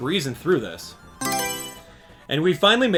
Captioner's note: Mario Selection Sound